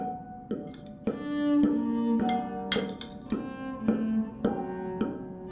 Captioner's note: sound of utensils hitting plates